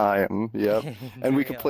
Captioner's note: laughter